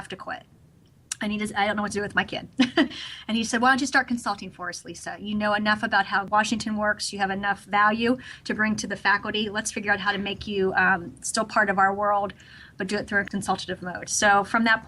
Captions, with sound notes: to quit." I don't know what to do with my kid. (Laughs) And he said, "Why don't you start consulting for us Lisa. You know enough about how Washington works. You have enough value to bring to the faculty. Let's figure out how to make you still part of our world but do it through a consultative road."